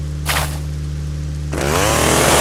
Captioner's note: accelerates